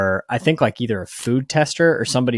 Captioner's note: screen clicking